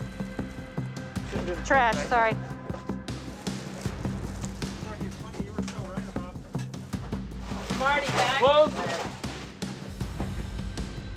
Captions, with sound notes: Trash, sorry. (indistinct conversation) - Marty, bag. - Clothes.